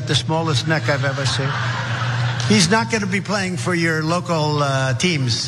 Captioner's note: laugh